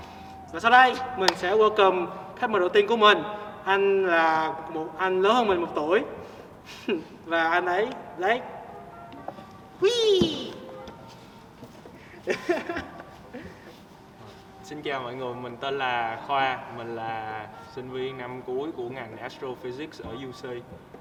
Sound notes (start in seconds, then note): 6.7 laughs